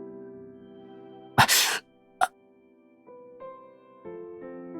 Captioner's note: gasp